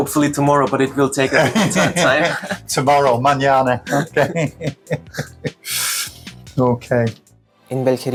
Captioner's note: laughter